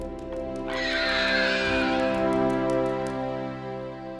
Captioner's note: bird cawing